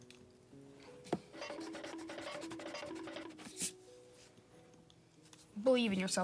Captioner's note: sound effect quietly